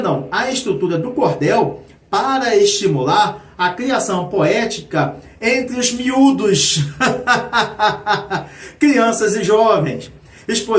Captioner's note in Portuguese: risadas